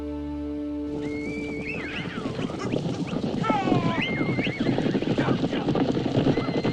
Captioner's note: hooves thundering; horses whinnying